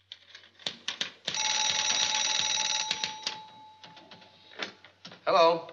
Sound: phone ringing

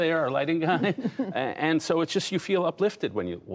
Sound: laughter

